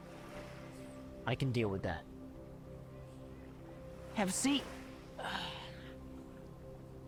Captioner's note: sighs